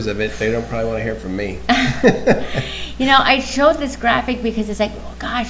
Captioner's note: laughs